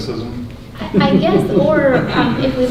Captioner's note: laughs